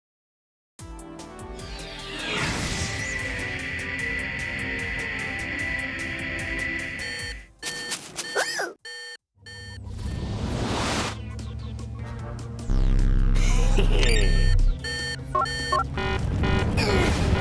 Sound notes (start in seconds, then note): 7.6 beeping; 13.4 chuckles; 14.0 beeps; 14.7 alarm blaring